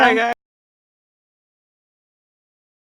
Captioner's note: laughs